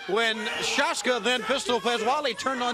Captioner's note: crowd chatter